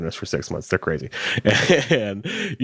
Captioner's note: chuckles